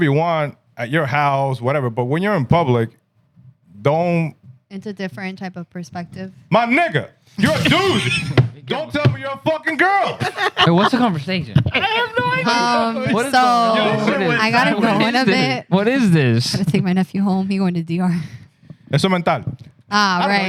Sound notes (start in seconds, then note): 19.8 non-english Speech